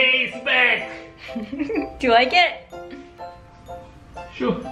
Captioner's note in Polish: chichocze